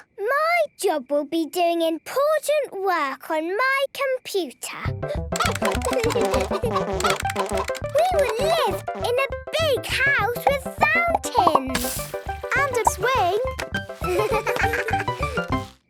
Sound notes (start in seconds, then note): 5.3 keyboard tapping; 5.3 computer game chickens clucking